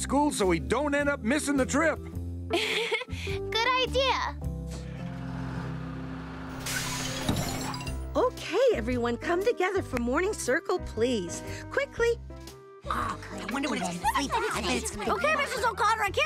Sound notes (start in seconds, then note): 2.6 chuckles